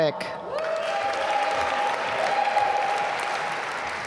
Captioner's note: applause